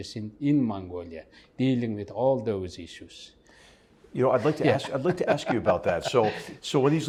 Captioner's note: laugh